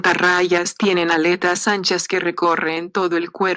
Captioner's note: speaking spanish